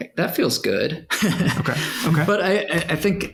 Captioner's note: laughs